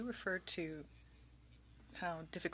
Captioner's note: speaking french